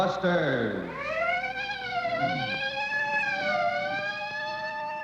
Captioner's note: sirens wail